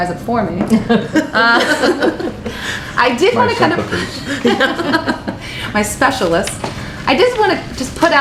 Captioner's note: laughter